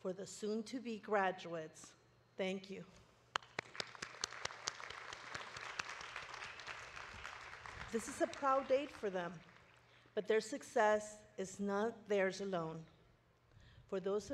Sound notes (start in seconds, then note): 3.3 audience clapping